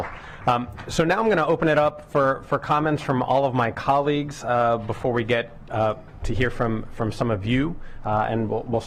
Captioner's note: applause